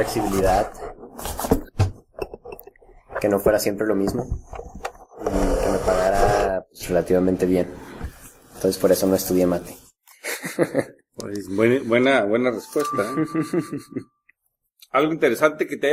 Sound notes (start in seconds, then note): 13.2 laughs